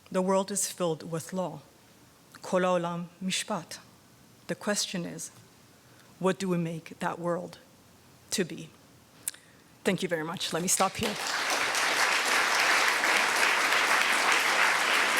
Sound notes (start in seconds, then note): 2.5 speaks in foreign language; 10.7 audience applauding